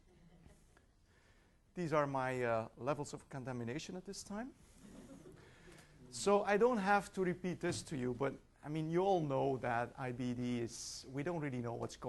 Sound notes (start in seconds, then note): 4.9 laughing